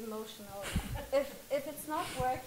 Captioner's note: audience laughs